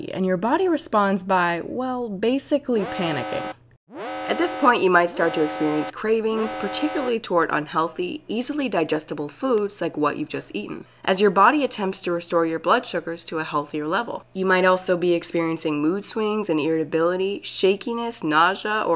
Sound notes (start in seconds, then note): 3.9 alarm wailing